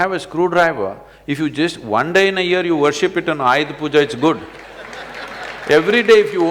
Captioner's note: laughter/Applause